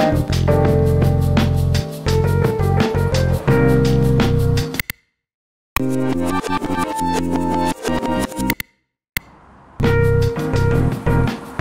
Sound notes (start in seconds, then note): 4.9 music stops, silence; 5.8 music rewinds; 9.2 music and road sounds; 9.2 silence